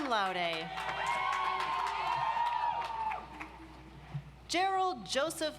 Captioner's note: audience applauds